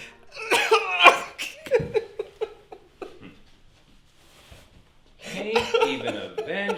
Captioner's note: Ron weeping; Ron grunts